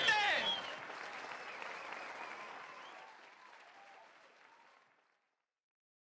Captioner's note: audience cheering; audience clapping